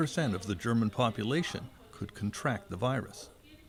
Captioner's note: speaking Foreign Language